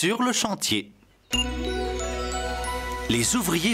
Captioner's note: beep!